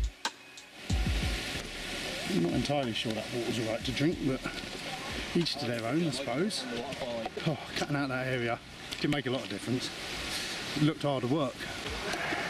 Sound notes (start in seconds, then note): none